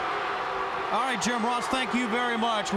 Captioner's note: crowd chatter